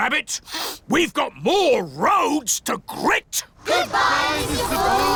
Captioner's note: sniffs